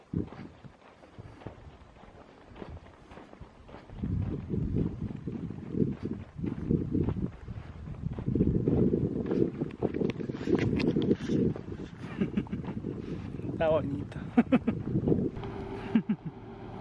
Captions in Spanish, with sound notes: sonido de pisadas está bonito (risas)